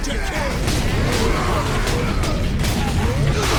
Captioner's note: punchy thumping; mighty bashing and screams